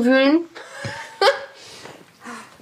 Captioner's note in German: Auflachen